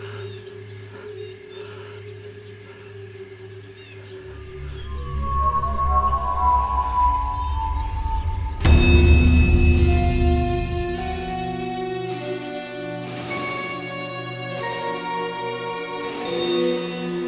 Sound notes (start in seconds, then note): 4.3 otherworldly Ringing